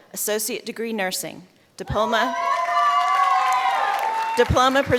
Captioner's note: cheers